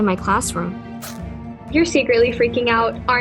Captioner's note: backpack zips